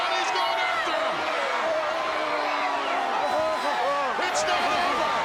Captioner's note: crowd cheers